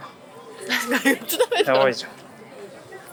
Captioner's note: laughs